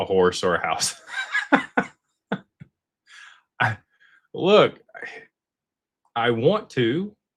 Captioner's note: laughter